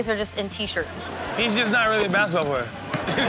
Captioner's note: audience laughs